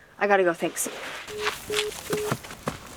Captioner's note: line beeping